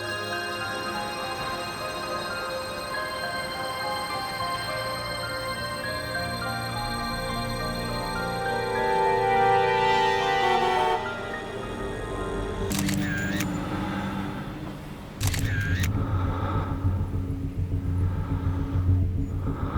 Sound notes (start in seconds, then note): 10.3 traffic bustling; 12.7 shutter clicking